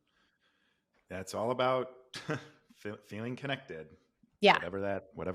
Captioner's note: laughs